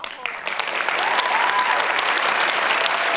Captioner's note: applause